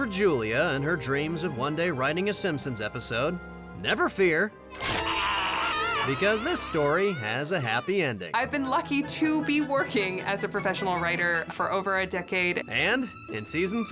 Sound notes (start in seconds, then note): 4.8 screaming